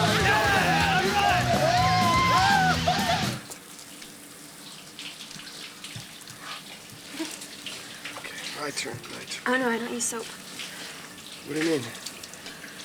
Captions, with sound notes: Yeah, all right! We're going to hell! (cheering) (giggling) Okay, my turn, my turn. Oh, no, I don't use soap. What do you mean?